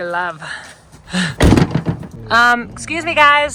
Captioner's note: door closing